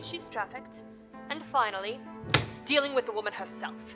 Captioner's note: slams